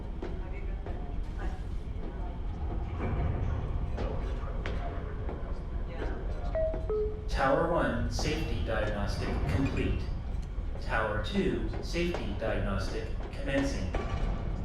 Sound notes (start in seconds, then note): 3.5 indistinct chatter; 7.3 computer voice